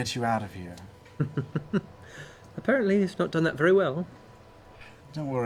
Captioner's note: laughs